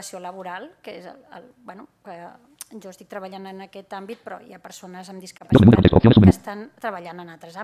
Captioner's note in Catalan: veu robòtica